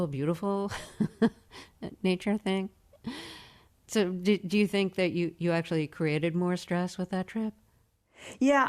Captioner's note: laughter